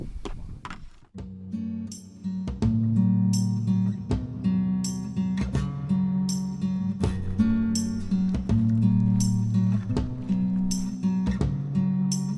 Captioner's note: footsteps on gravel